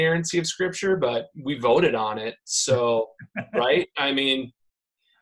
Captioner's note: laughing